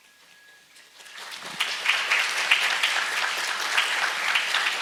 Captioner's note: audience applauds